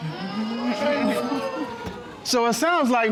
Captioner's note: audience exclaims